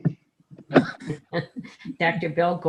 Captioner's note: members laughing